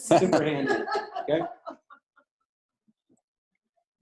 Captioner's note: laughter